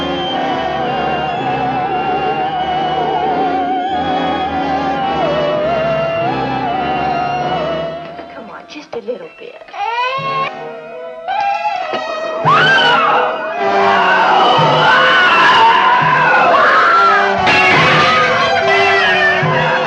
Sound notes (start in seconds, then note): 9.8 crying; 12.0 screaming